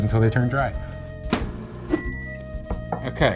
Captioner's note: microwave door slamming; timer beeping